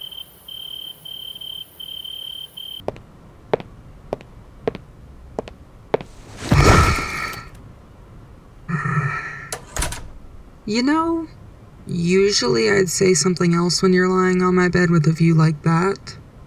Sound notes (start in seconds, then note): 6.3 Smoke sighs, tired; 8.5 exhales